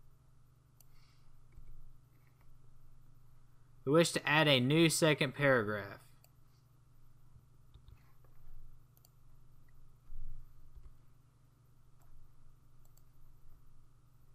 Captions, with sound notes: We wish to add a new second paragraph. [long pause]